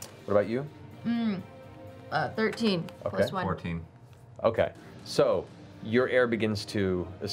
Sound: none

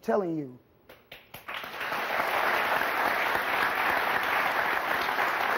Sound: audience applauding

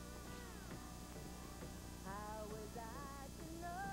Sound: radio playing

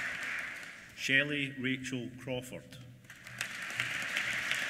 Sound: applause

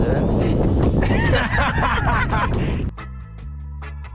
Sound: laughs

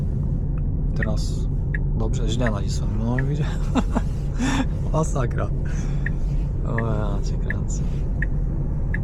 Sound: turn signal

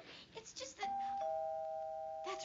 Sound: doorbell rings

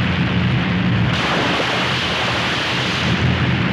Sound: crashing

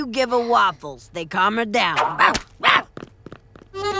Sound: barking

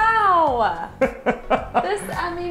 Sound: laughing

